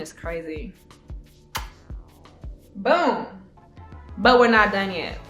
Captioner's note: kiss